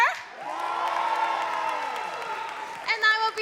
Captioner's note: crowd cheering and clapping